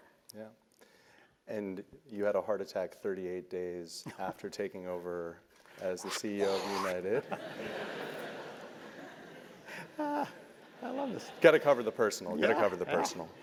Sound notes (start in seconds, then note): 9.7 laugh